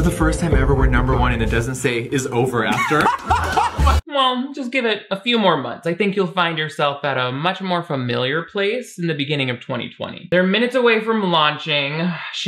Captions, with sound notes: For the first time ever, we're number one and it doesn't say "is over" after. (everyone laughs) - Well, just give it a few more months. I think you'll find yourself at a much more familiar place in the beginning of 2020. They're minutes away from launching.